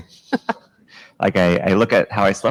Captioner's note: chuckles